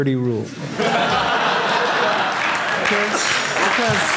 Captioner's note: audience laughing